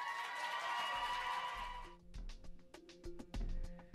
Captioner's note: cheering and applauding